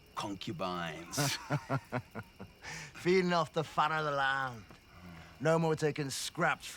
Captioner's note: laughs